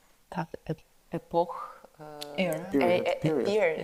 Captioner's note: speaks in foreign language